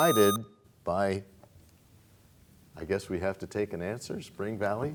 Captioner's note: buzzer sound